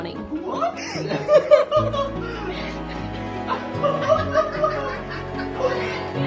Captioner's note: laughs